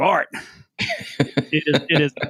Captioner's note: laughing